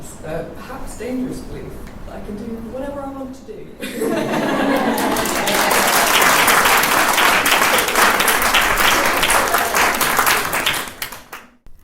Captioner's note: laughter and applause